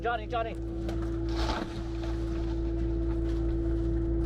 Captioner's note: tree falling